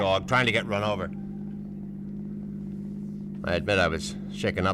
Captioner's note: engine humming